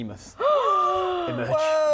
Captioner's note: gasp